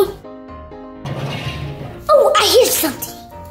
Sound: engine roaring

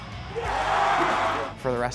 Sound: crowd cheering

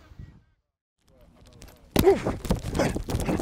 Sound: grunting

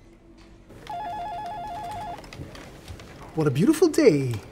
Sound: phone ringing

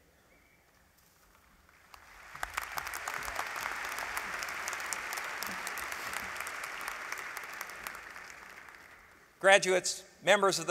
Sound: applause

